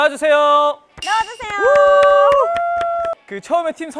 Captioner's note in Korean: 박수 / 박수